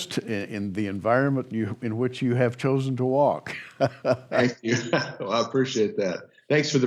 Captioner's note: chuckles